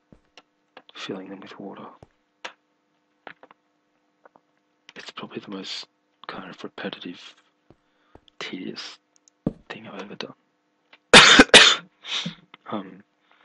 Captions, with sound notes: Filling them with water It's probably the most kind of repetitive Tedious thing I've ever done [coughing] [sniff] Um